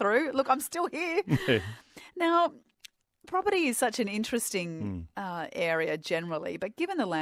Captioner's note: laugh